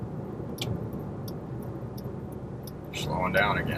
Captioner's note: car signal clicking